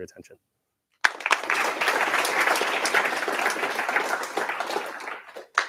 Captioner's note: applause